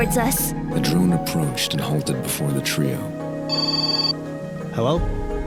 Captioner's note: phone ring